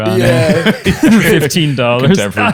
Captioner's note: laughter